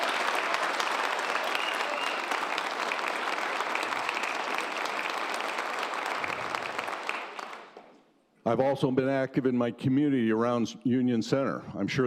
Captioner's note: cheers and applause